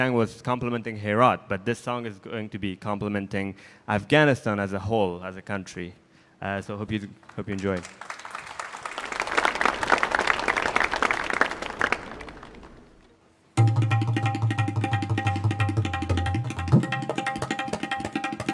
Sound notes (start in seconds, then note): 7.3 audience applauding